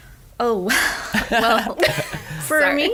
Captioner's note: laughing